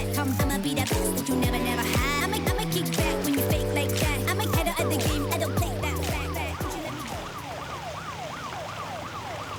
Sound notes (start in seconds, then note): 6.5 sirens wail